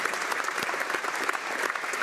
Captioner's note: applause